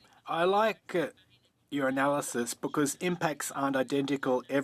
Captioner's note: speaking French